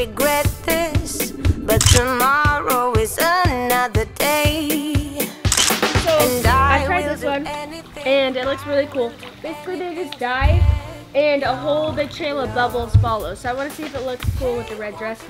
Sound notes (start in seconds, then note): 1.8 camera clicking; 3.9 upbeat music; 5.5 camera clicking